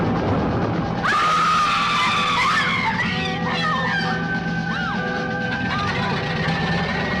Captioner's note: suspenseful music; women screaming